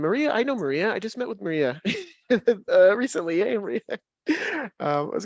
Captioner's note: laughs